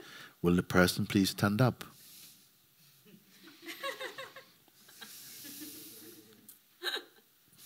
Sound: laughter

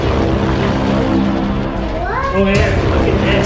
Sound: dramatic sound effect

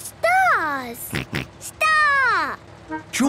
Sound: snort

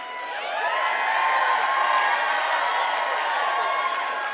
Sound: cheering and applause

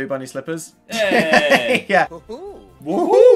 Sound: laughing

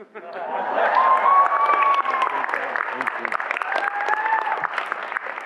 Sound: audience laughs and applauds

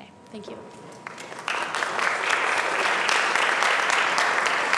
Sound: applause

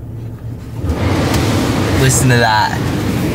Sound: blowing

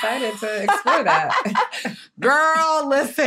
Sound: laughter

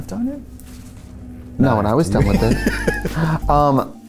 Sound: laughs

